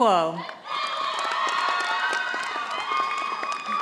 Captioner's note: audience applauding